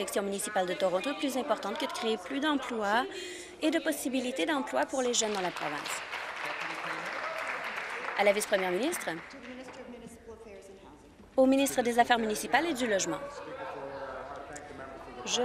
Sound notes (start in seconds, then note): 7.7 applause